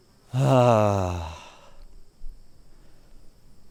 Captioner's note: sighing